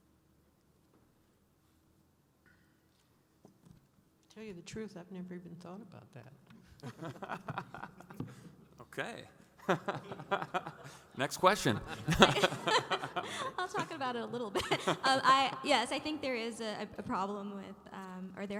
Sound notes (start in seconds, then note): 7.6 laughing